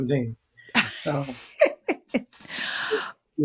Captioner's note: laughs